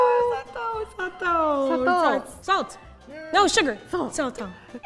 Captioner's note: speaking in Japanese